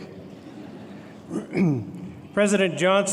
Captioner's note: laughter